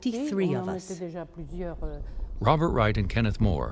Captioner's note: loud explosions